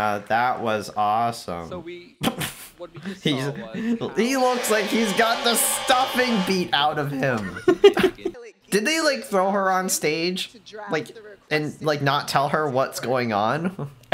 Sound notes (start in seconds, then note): 1.7 laughs in corporate depression